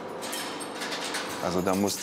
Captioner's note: clinking